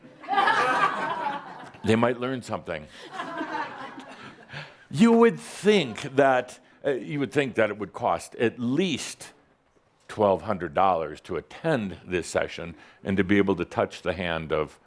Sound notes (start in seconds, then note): 0.2 some laughter; 3.1 more chuckles